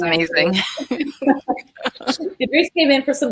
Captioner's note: laughing